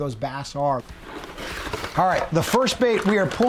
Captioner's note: box opens